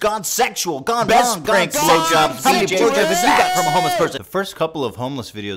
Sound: Ethan, yelling

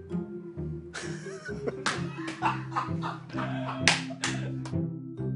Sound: laughter

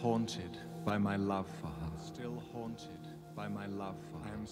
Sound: echoes

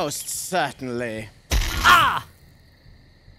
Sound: brzzzzt

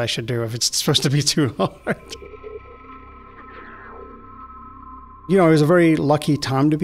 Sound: laughs

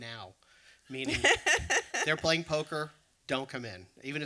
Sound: laughs

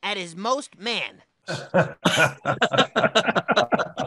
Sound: laugh

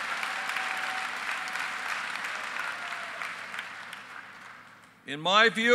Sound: applause

